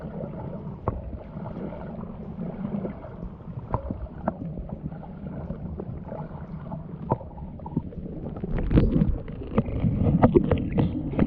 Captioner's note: underwater sound of water moving and slapping against boat